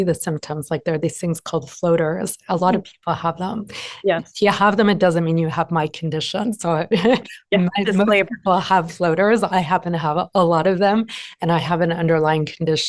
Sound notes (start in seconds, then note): 7.0 laughs